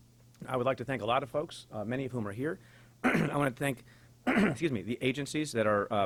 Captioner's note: clears throat